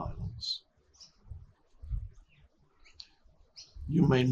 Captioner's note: birds chirping